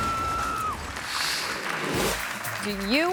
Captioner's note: audience applauds